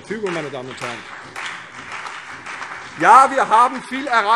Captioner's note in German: Beifall CDU und BÜNDNIS 90/DIE GRÜNEN